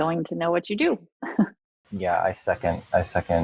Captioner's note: laughing